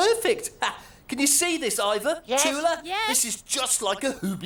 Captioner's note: laughs